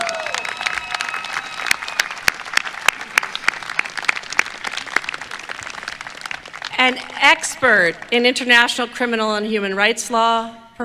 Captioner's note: applause